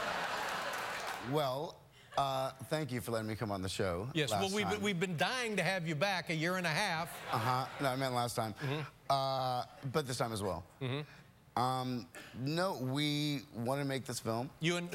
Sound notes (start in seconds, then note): 0.0 laughter; 0.0 applause; 7.2 laughter